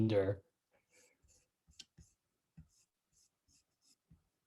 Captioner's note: silence